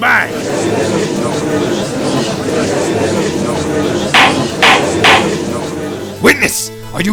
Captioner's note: gallery chattering